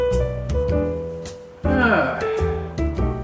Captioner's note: sighs